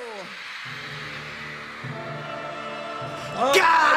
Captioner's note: crowd screaming; dramatic music